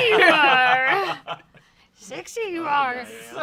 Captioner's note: everyone laughs